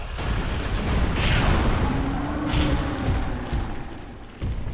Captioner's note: giant growls